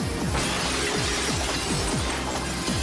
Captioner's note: glass shatters